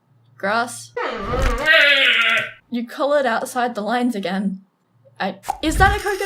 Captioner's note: gooby noise